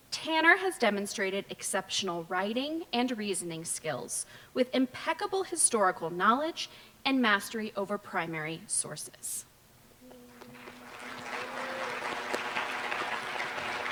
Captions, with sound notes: Tanner has demonstrated exceptional writing and reasoning skills with impeccable historical knowledge and mastery over primary sources. [APPLAUSE]